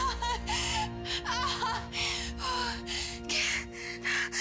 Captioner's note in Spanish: gritos y jadeos